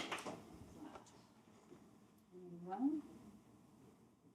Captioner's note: applause